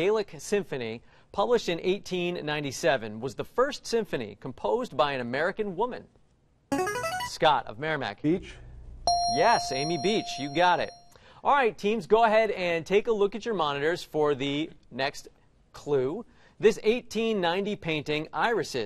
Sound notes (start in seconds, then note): 6.1 buzzer plays; 9.0 ding